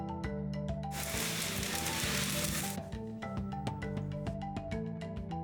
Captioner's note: soft percussive music; machine whirring